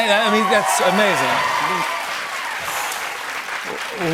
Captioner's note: cheers and applause